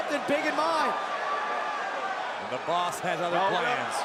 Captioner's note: crowd cheering